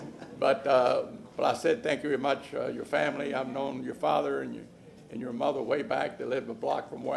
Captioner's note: laughter